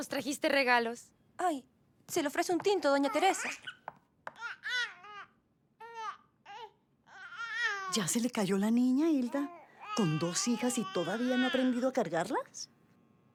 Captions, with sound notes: Did you bring us gifts? May I offer you some coffee, Doña Teresa? [baby cooing] Did you already drop the baby, Hilda? Two daughters and you haven't yet learned how to hold them?